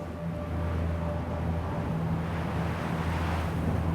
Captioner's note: wind blowing